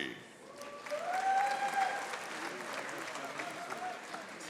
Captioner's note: audience applauding